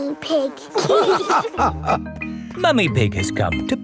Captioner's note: all laughing